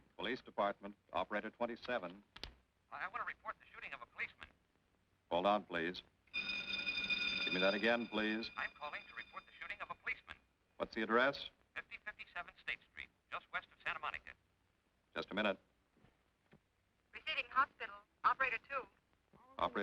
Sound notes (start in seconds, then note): 6.3 alarm ringing